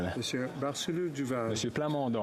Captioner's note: speaking French